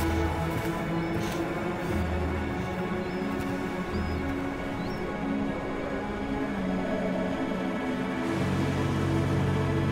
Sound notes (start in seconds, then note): 5.7 wind howling